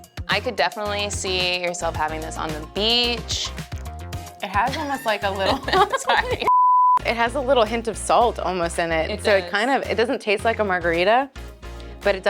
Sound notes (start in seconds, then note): 4.6 laughing